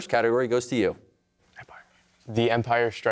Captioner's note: whispers